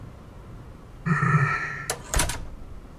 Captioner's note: exhales